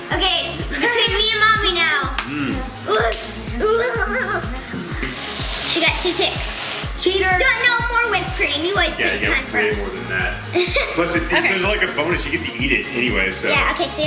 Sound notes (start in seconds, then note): 2.9 claps; 3.5 exclaims